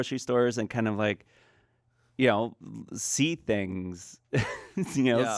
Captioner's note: laughs